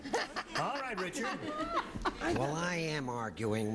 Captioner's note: laughing